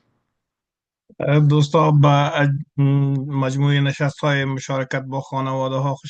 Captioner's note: interpreter speaking in Farsi